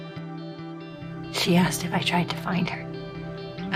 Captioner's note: voiceover